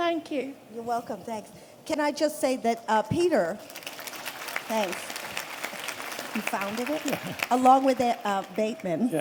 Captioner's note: applause